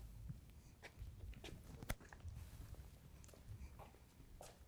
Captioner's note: people walking